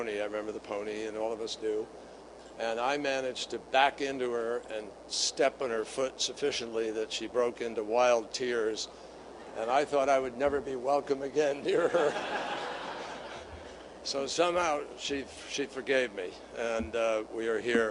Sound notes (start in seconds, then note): 11.7 laughter